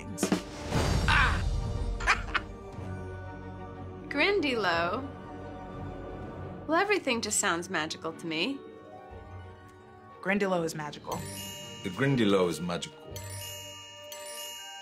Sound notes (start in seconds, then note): 2.0 laughs; 10.6 magical chime